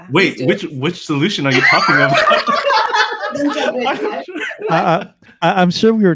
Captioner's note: laughter